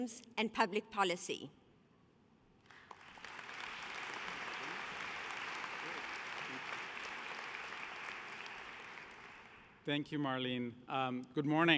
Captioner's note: applause